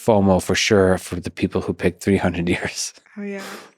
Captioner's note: laughs